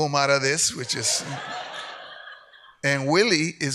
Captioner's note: audience laughs